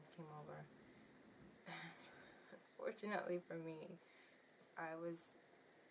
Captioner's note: sighs